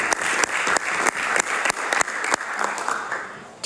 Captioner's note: applause